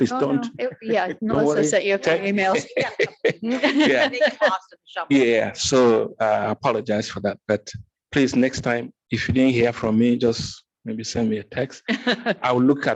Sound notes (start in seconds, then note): 3.0 faintly speaking